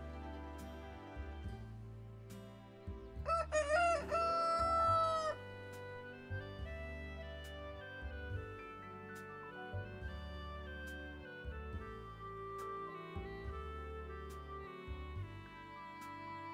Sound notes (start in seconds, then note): 0.1 calm music; 3.2 rooster crowing